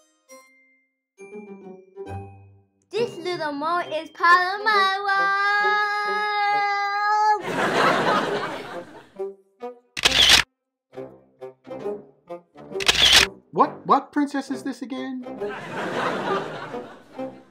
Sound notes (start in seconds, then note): 7.4 audience laughs